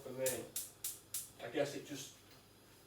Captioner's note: gas cooker clicking